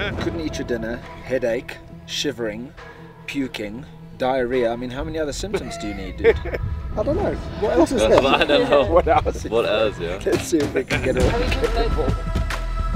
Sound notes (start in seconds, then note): 0.0 group laughter; 7.6 laugh